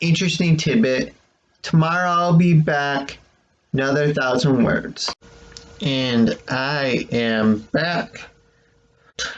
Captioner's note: click